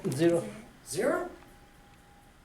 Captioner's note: voiceover